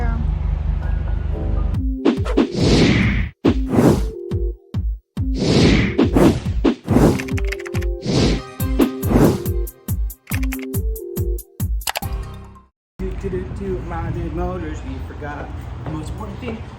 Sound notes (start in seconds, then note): 2.1 quick whooshing sounds; 7.0 keyboard typing; 8.4 upbeat music; 13.2 joyfully singing